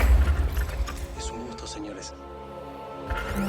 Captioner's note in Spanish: Disparo